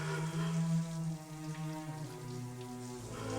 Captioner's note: dramatic music; sobbing